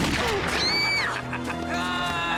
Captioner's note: gun firing; screaming and yelling